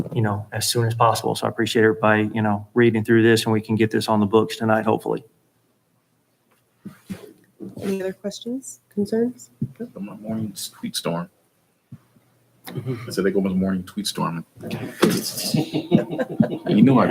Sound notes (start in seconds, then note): 12.7 sighs; 14.7 chuckling